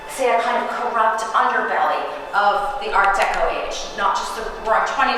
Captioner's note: none